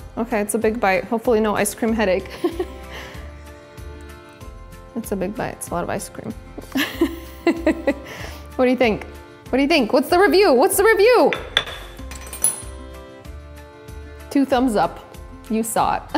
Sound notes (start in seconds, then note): 2.3 laughing loudly; 6.7 laughing loudly